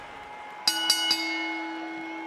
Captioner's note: bell rings